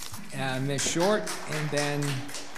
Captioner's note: audience applauds